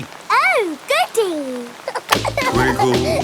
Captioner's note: giggling